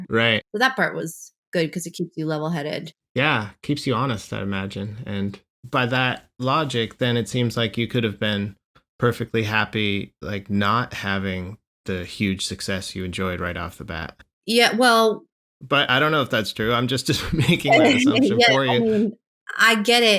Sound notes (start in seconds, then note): 17.1 laughter